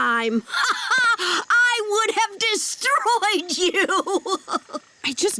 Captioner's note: laughing